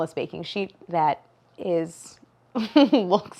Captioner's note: laughs